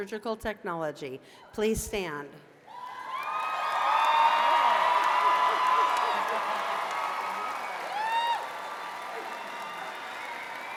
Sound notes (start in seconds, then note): 2.2 cheers and applause